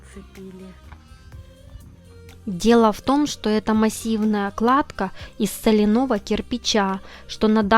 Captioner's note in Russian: закадровый голос